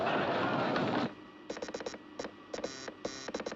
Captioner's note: Zumbidos, Cliques